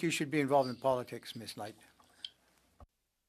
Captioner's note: speaking french